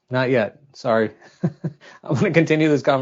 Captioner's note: laughs